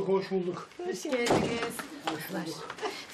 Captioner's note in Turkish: Kapı kapanma sesi